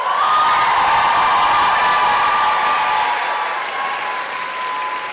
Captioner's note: applause and cheering